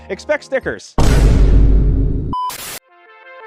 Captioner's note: bang